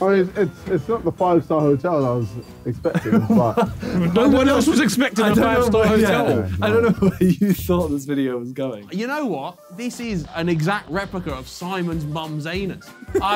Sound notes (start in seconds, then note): 2.9 all laughing